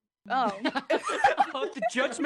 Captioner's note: laughter